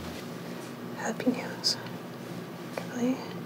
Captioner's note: whispering